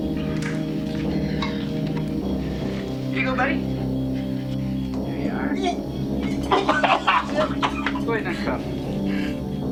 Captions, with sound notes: Here you go, buddy. [chokes] [vomits] Put him in a cuff.